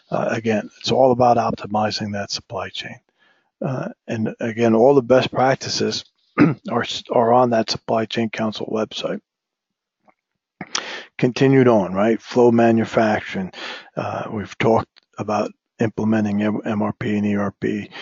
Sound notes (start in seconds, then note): 6.4 cough